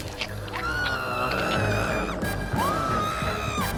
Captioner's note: vivien screaming